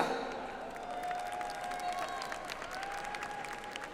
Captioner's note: audience applauds